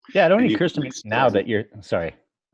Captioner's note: mumbles